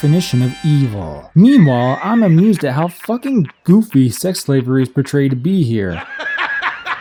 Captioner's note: Jonah Jameson from "Spider-Man" laughing